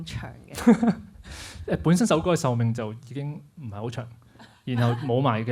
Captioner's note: laughs